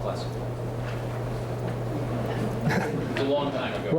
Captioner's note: chuckles